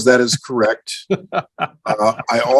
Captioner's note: laughs